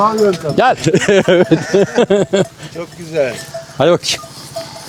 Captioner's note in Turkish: kahkaha